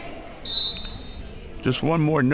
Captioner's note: whistle